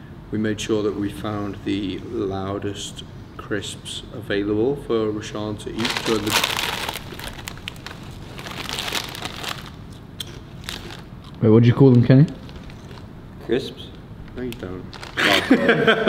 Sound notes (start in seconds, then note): 5.7 packets rustle loudly; 15.2 laughs